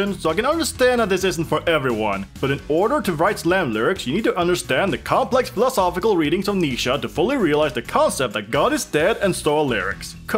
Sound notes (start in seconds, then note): none